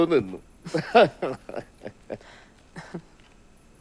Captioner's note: laughter